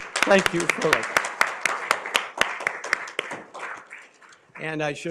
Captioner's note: applause